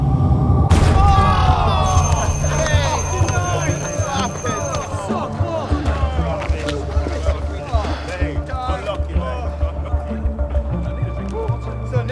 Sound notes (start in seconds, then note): 0.8 crowd cheering